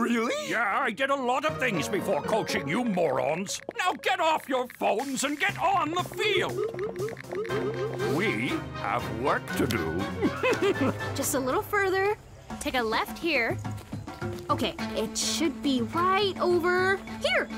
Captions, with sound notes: - Really? - Yeah, I did a lot of things before coaching you morons. Now, get off your phones and get on the field! (phones chiming repeatedly) We have work to do. (chuckling) - Just a little further... take a left here. Okay, it should be right over... here!